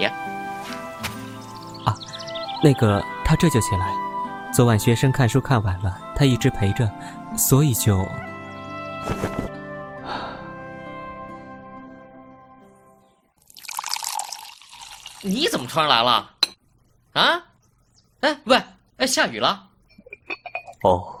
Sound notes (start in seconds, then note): 10.0 sigh; 13.4 pouring water